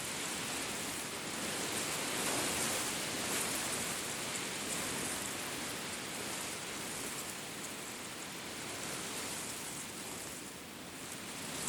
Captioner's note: reeds rustling loudly in the wind